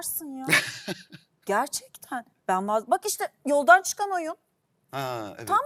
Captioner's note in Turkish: kahkaha